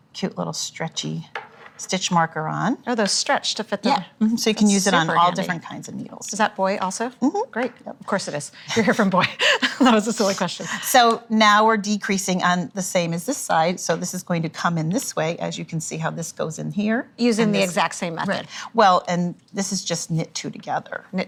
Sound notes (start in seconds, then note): 9.1 laughing